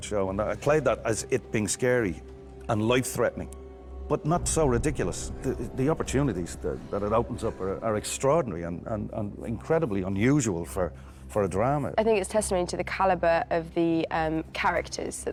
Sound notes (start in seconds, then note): none